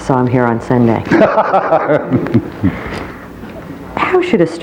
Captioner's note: laughing